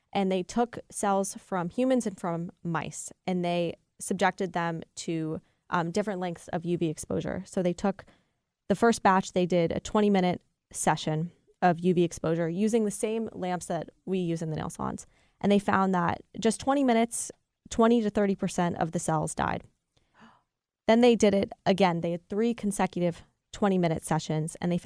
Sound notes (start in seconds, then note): 20.1 gasps